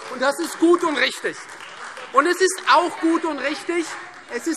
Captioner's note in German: Beifall Freie Demokraten - Zurufe DIE LINKE